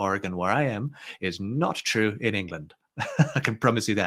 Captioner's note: chuckles